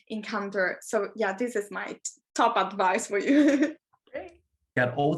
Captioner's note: chuckles